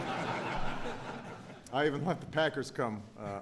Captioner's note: laughter